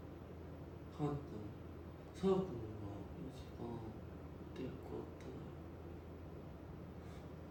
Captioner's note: reading Japanese